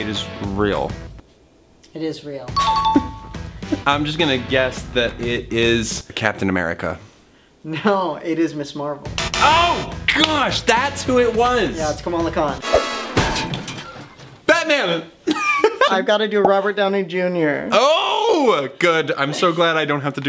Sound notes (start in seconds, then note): 2.6 dinging; 8.1 beeping; 13.1 thud; 14.4 laughs